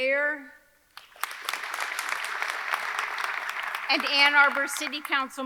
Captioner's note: audience clapping